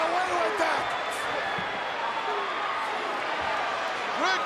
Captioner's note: crowd yelling